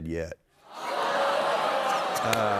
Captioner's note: audience exclaims, laughter